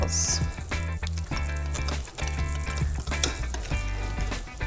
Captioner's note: whisking